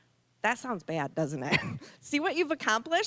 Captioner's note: chuckling